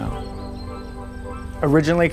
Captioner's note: birds twitter